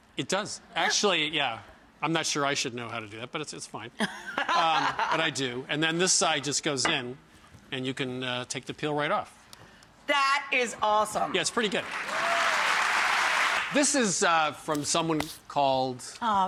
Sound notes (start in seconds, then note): 4.0 laughter; 11.4 applause